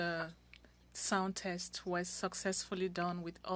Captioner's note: speaking French